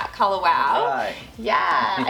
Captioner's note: laughing